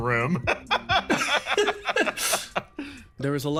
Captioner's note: laughs